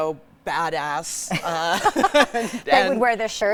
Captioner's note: both laughing